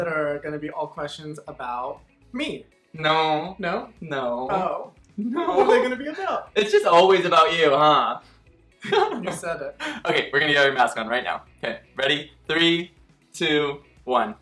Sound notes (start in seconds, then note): 8.9 laughing